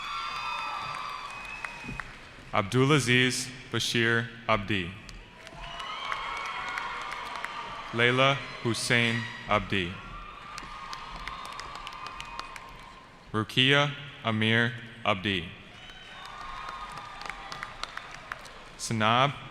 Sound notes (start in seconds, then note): 0.0 cheering; 5.3 cheering; 15.7 cheering